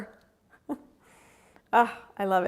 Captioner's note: chuckles